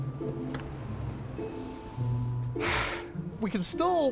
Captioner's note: sigh